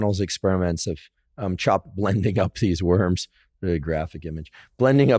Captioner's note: laughs